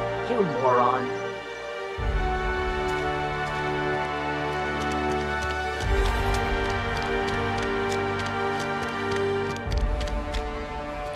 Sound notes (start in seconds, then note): 8.6 footsteps